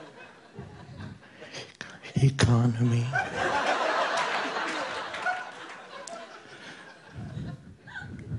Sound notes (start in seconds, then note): 2.9 audience laughing